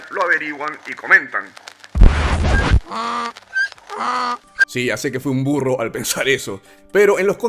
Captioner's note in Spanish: Sonidos de Burro